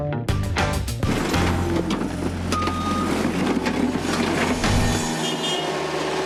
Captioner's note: funky guitar riff; concrete smashes; horn honks